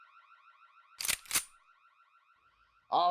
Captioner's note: gun cocks